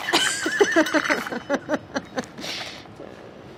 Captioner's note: laughs